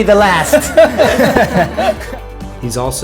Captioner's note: laughter